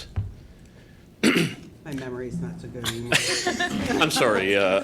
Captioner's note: laughter